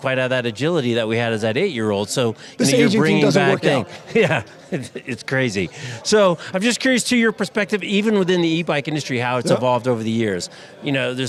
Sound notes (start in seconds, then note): 3.8 both laughing